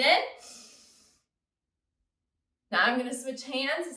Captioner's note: inhales